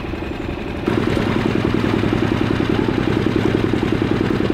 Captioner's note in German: Motor rumpelt